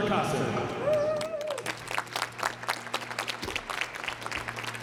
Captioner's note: applause